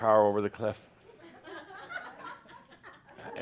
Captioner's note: a few giggles